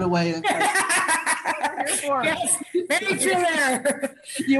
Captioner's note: laughing